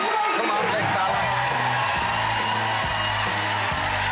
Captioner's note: cheers, applause; jazz music